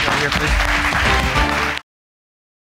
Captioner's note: audience applauds